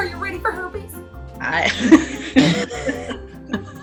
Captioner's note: laughing